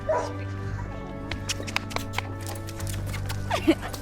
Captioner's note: dog barks